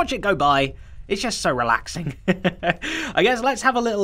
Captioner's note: chuckles